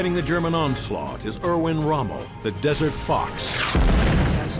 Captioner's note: tank exploding; tank fires